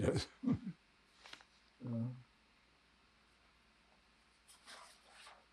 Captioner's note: pauses 8 seconds